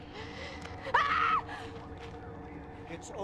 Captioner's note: screaming